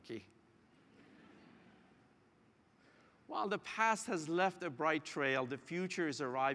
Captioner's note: laugh